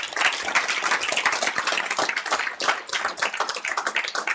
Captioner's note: applause